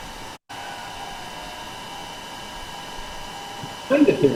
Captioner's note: gpu sound